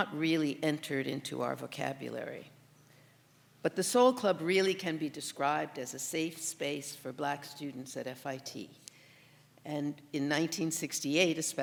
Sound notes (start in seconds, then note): none